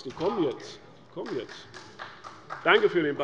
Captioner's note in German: Beifall bei Abgeordneten der SPD